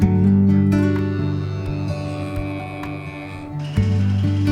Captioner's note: cows moo; machinery hums